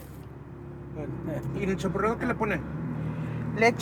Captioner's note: foreign language